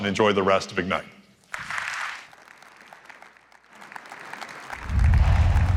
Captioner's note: applause